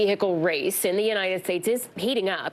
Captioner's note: none